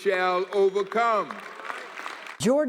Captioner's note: applause